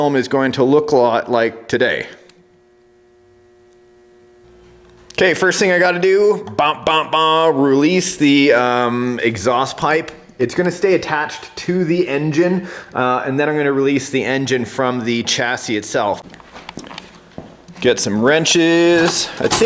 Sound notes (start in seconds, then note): 7.3 bops